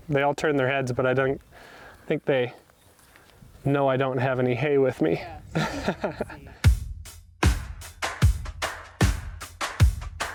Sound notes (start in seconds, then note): 5.2 laughs; 7.4 upbeat music